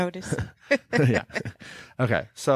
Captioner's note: laughing